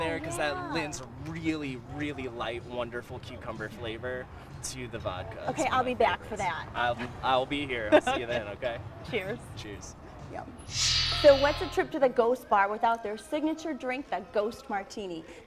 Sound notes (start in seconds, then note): 7.8 laughter; 10.8 chimes